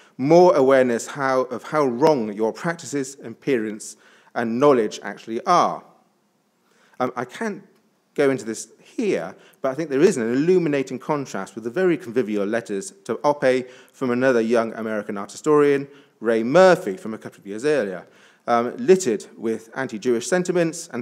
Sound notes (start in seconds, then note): none